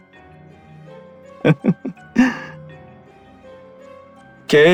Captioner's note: laugh